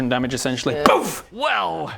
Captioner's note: boof!